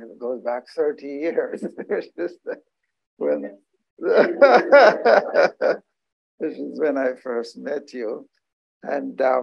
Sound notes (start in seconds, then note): 4.0 laughter